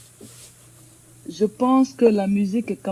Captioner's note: answers in French